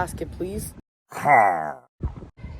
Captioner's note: pillager noise